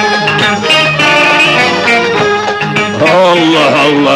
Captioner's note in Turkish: Karanıkta şaşıran insanların ortam gürültüsü